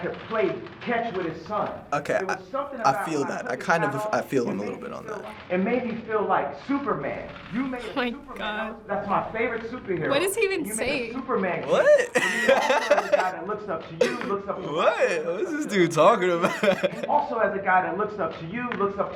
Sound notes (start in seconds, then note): 11.6 laughs; 14.0 chuckles